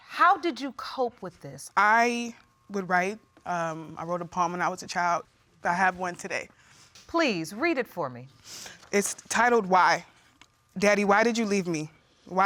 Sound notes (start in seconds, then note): 8.4 sniffling